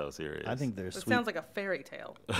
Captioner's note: chuckles